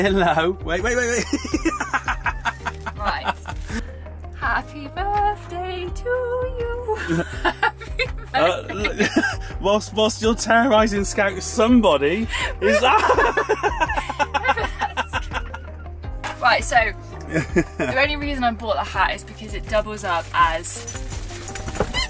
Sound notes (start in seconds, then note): 1.1 laughing; 12.5 laughter